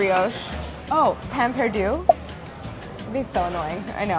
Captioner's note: bubbles popping